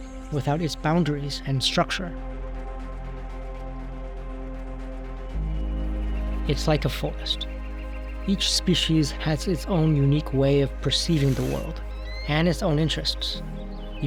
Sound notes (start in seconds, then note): 5.4 birds chirping